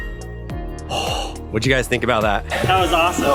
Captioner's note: gasps